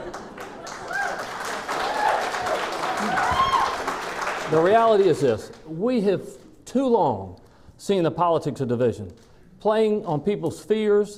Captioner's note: clapping